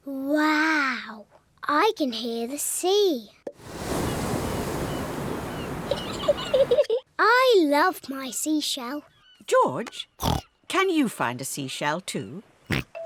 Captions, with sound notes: Wow! I can hear the sea! -(WAVE NOISES) -(SEAGULLS SHRIEK) (GIGGLES) I love my seashell. George, can you find a seashell, too?